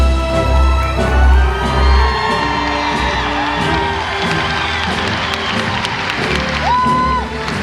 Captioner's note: applause